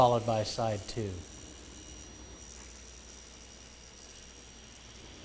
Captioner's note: sound of saw blade cutting material